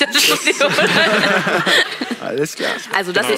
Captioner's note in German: Gelächter